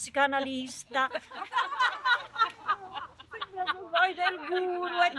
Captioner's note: laughter